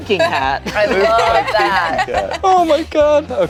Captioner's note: group laughs